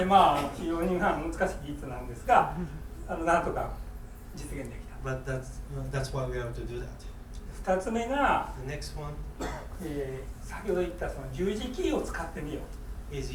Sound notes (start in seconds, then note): 0.2 speaking in foreign language; 7.7 speaking in foreign language; 9.4 coughing; 10.4 speaking in foreign language